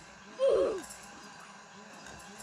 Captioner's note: oofs